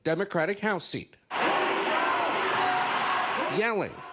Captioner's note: protesters yelling, chanting